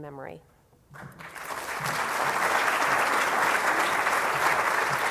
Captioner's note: applause